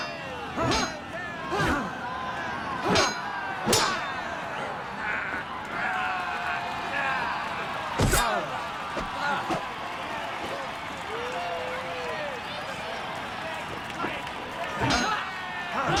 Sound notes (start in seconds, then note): 1.8 wooshing; 4.9 men grunting